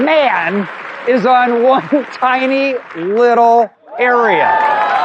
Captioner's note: chuckling